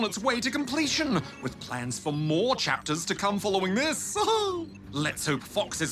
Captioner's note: laughs